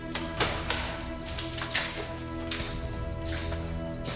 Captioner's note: boots scuffing